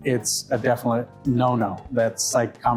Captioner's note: none